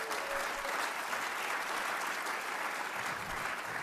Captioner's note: applause